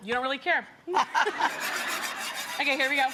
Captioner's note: Rachael laughs; audience laughs